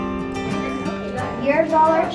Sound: children chatting

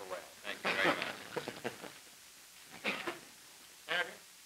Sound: laughter

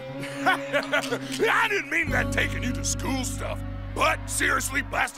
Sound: laughs nervously

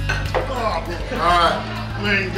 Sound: grunting

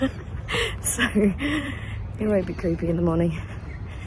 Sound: laughing; laughs

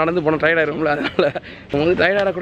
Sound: laughs

